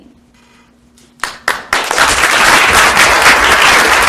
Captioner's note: applause